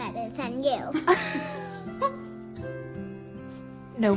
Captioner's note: laughs